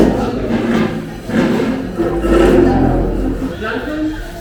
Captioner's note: makes noise while grabbing chairs from other tables